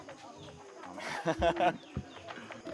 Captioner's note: laughs